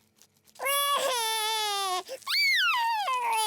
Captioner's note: cries